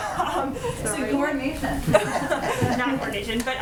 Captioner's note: laughs; laughter